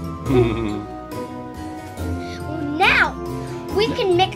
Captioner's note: laughs